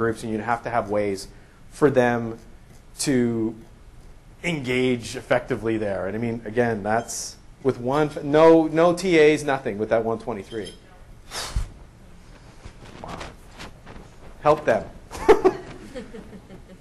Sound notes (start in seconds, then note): 10.9 voiceover